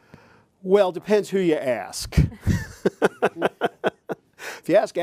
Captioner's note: chuckles